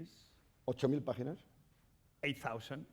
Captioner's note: speaking spanish